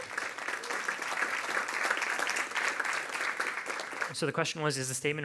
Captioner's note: audience applauding